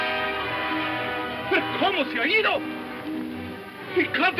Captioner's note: speaks in foreign language